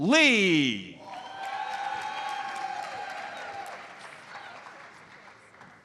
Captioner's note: audience cheers and applauds